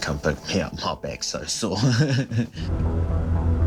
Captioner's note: chuckling